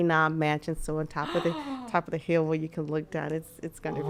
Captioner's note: podcaster gasping